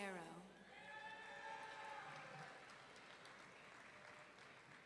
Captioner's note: audience cheering